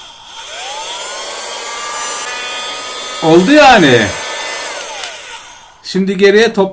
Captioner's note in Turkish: süpürge sesi